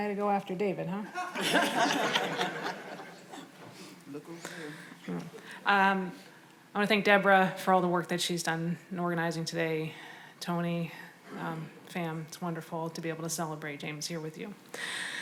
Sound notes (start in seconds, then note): 1.2 audience laughs